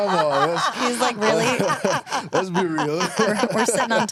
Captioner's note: laughs